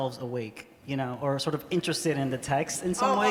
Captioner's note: laughter